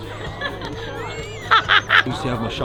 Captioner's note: laughs